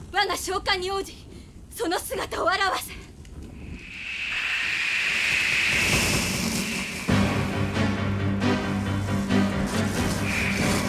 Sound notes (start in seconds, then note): 4.6 SFX: winds gathering